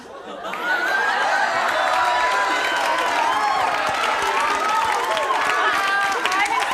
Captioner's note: laughter, cheering